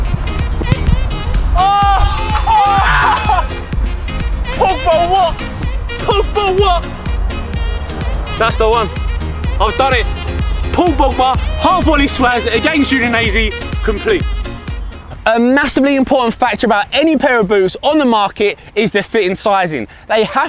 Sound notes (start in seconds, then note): 1.6 cheering